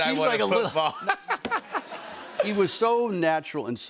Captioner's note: laughter